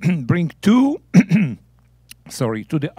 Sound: clearing throat

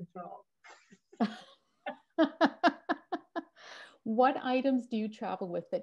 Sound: laugh

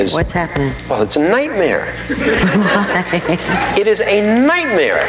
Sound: audience laughing

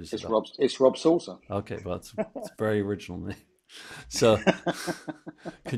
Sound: both laugh

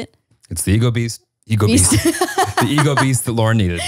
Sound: laughing

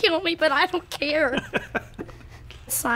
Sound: chuckles

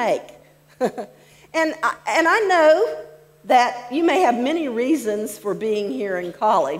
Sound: laughs

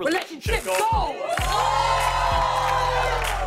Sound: cheers and applause

